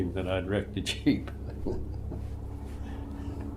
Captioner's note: laughs